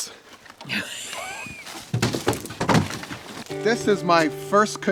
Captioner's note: laughs